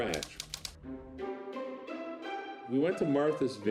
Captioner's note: typewriter clicking